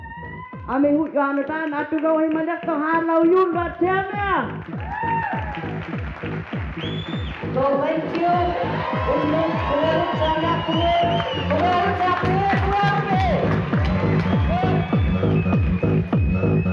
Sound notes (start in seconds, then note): 0.3 applause; 1.6 speaking first nation language; 10.0 applause